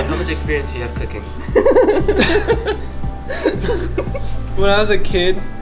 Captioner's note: laughing